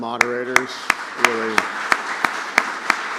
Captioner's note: applause